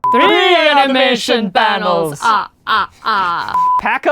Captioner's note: imitating the count